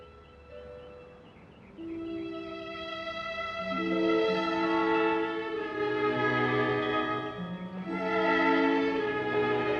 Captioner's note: none